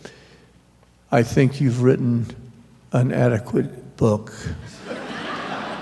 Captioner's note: laughter